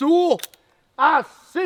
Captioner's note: ominous click